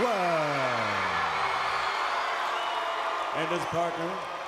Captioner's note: crowd cheering